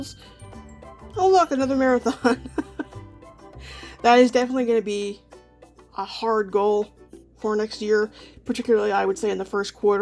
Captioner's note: laughs